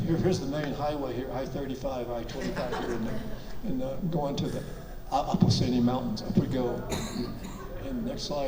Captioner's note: audience laughs